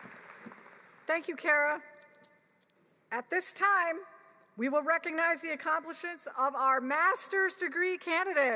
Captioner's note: applause